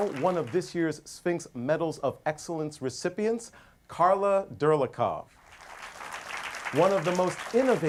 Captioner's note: applause; applause